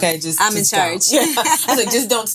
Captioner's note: laughing